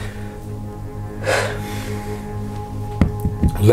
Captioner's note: sigh